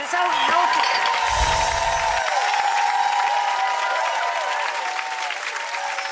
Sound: audience applauds and cheers

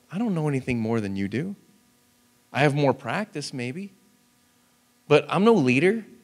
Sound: none

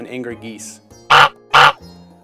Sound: goose honks

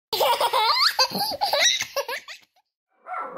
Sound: children's laughter

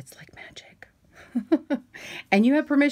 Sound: chuckling

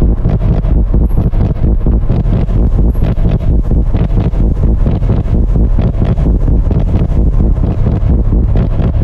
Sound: more bootyquake noises

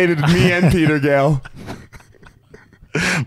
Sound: laughing

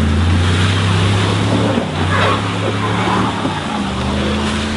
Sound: tires squealing

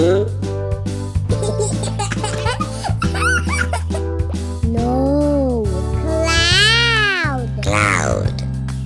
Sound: laughs

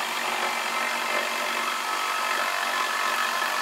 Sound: whirring

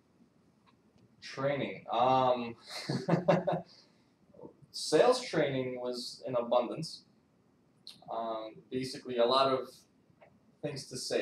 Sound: laughs

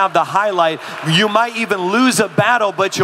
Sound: audience clapping

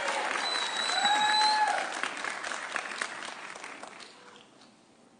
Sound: audience cheering

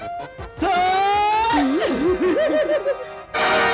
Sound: laughs

